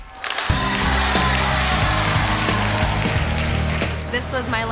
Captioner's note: crowd exclaims and claps; camera snaps